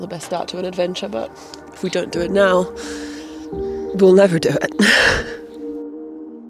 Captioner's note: chuckles; eerie music